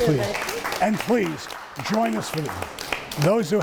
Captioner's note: audience applauding